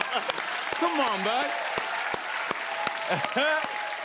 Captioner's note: cheers and applause